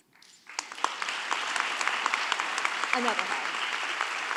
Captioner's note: audience applauding